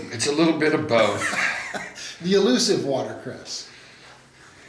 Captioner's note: laughs